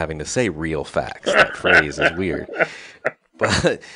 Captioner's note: laughs